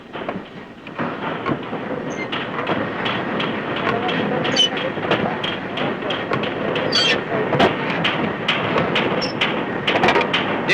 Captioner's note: creaking and hammering